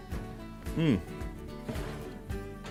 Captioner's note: casserole dish scraping